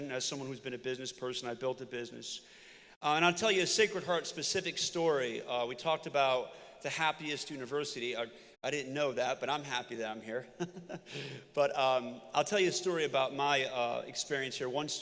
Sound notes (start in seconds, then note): 10.6 laughs